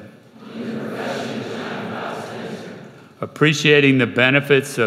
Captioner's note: crowd